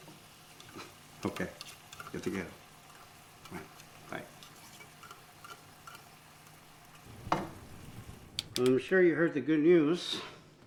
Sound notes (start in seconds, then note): 2.1 Spanish